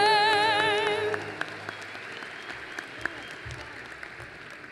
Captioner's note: applause